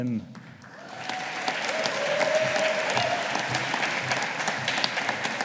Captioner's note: audience applauding